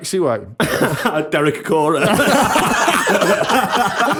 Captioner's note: laughter